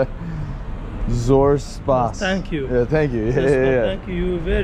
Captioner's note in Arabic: كلام بلغة أجنبية